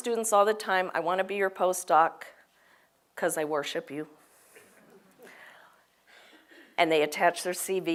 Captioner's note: laugh